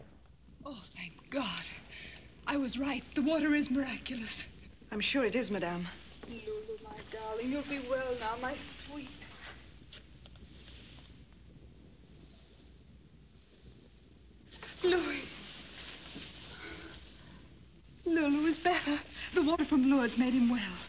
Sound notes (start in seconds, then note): 16.4 sighs